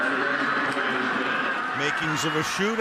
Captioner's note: pa announcement